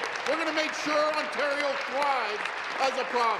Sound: applause

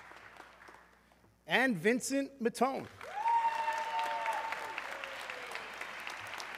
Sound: audience cheering

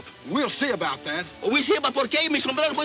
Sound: speaking in foreign language

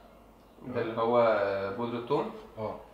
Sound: in Arabic

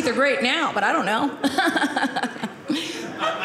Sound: audience laughing

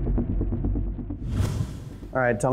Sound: whooshing

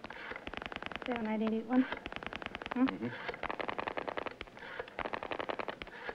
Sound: whispering; static

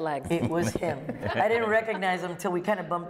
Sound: laughter

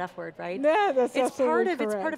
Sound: laughs

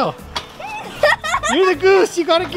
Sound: children laughing

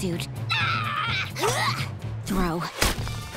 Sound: yelling

